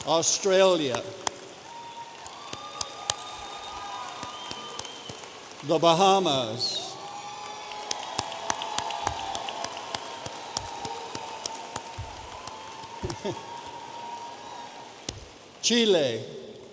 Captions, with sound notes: Australia. (audience applauding) The Bahamas. Chile.